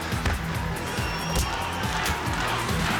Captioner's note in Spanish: Golpes